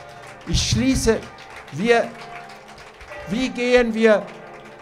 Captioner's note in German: Applaus